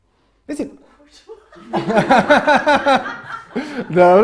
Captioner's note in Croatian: smijeh